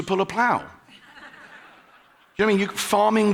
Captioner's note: audience laughing